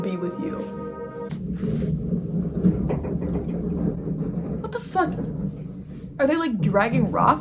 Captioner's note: loud ass truck noises from alley